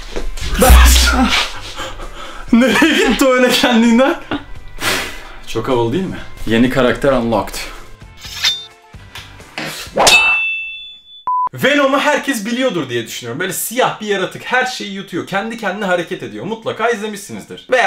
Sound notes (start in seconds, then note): 8.2 sword sound